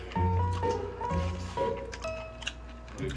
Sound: slurping the kimchi

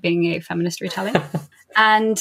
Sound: laughs

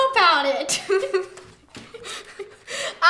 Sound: laughs

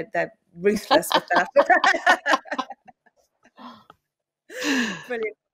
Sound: laughter

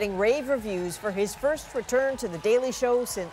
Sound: applause

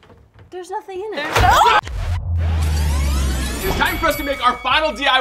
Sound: screams

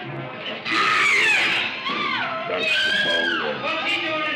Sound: screams

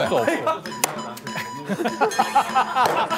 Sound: slap

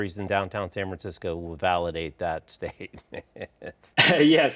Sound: laughs

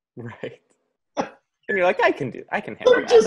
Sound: both laugh

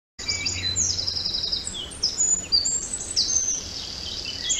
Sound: Sound effect: 169024__klankbeeld__forest-spring-birds-windy-3bft-1pm.wav

